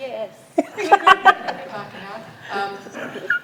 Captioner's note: group laughs